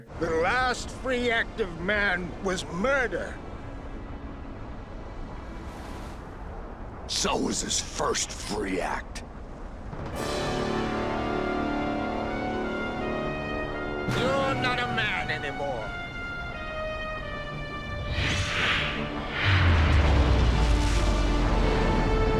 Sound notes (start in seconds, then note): 9.9 tense dramatic music; 17.1 wind whooshing